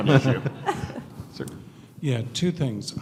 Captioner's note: laughing